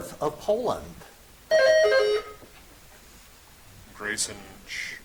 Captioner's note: buzzer chimes